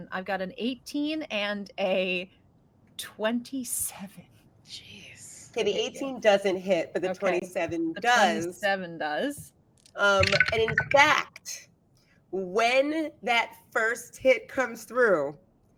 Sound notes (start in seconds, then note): 10.2 dice rolling